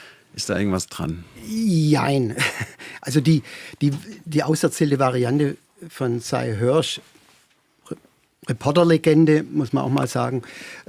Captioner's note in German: gelächter